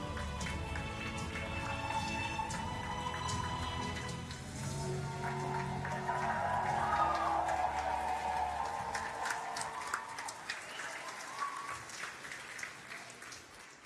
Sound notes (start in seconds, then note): 11.2 applause and Cheering; 11.9 applause